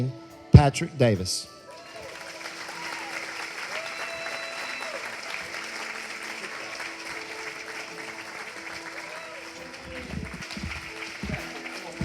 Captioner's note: clapping and cheering